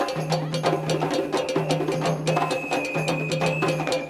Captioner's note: woman exclaiming